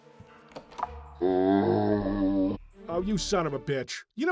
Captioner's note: zombie grunt